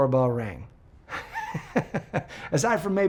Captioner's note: laughs